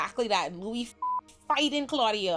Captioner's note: beep